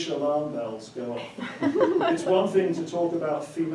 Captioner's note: attendee laughing